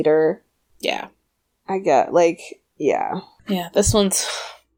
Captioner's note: sighs